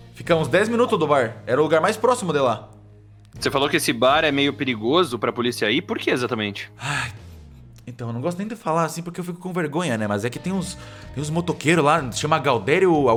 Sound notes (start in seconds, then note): 6.8 sighs